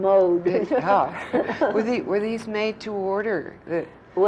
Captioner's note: laughter